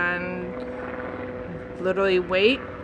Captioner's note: helicopter flying